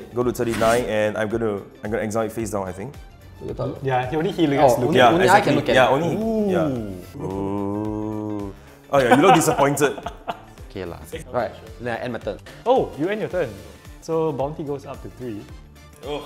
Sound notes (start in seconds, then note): 5.1 players chattering; 8.9 laughs